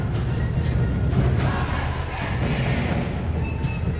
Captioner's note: crowd chanting